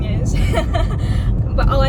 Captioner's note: laughs